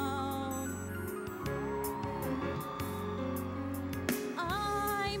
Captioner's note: cheering, applause